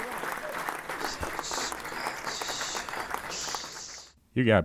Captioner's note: whispering